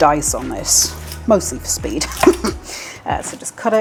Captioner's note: laugh